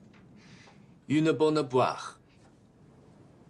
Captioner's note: French